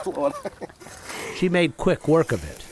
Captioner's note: laughter